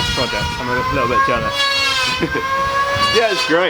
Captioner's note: laughter